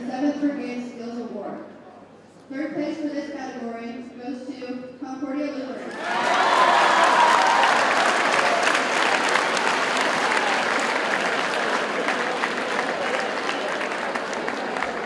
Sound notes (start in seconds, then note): 5.8 audience cheers and applauds